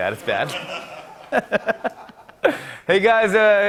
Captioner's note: laughter